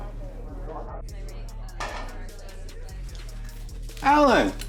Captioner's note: people chattering